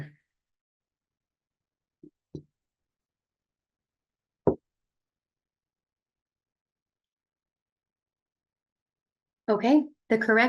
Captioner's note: silence